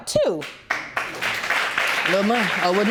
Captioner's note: audience applauding